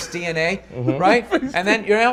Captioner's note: laughing